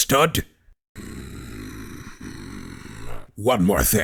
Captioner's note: growls